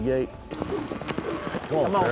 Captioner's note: rope whirling